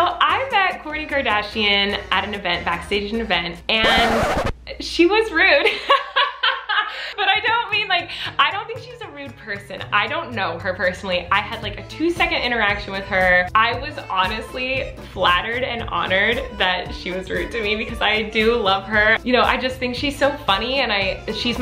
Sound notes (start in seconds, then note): 5.7 laughs loudly